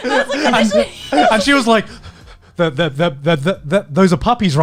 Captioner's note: laughing; stammering